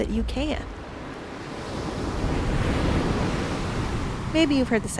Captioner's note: wave crashes